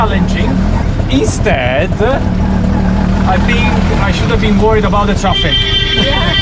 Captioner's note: laughing